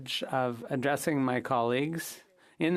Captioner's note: speaking French